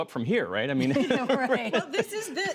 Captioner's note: laughter